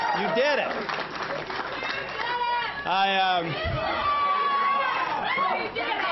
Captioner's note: applause